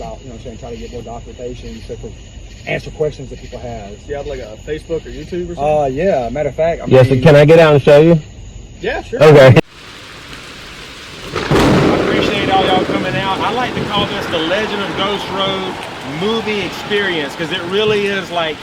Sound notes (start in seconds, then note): 10.0 rain pattering; 10.0 thunder clapping